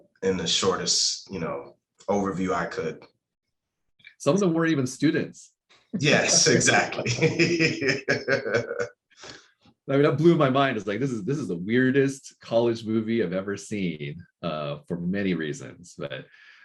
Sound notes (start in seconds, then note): 6.0 laughing